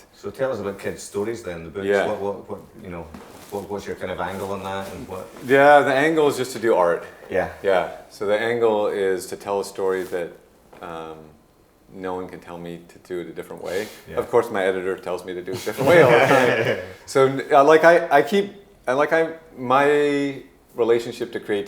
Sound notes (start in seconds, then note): 15.6 group laughing